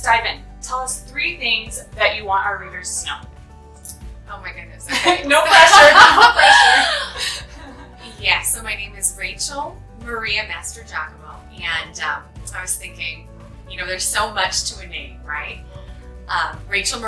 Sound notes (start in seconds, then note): 5.3 laugh